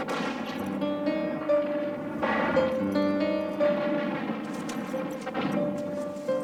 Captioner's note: gunshots blasting; gentle music